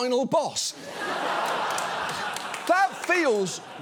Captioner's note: studio audience laughs